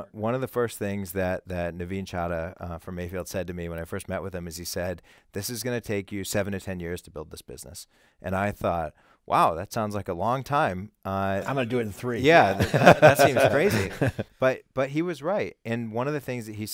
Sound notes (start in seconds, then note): 12.3 laughing